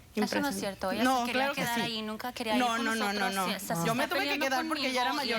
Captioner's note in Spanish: discuten entre ellas